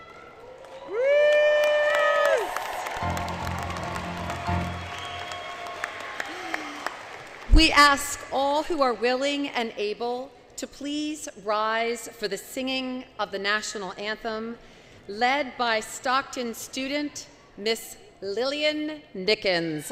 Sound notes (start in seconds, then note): 2.9 cheering, Clapping, Music; 4.9 cheering, Clapping